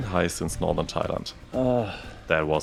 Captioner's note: groans